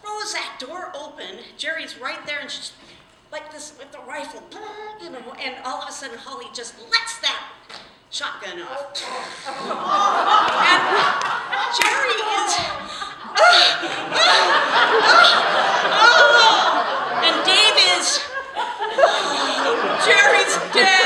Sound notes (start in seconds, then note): 12.7 gasping sounds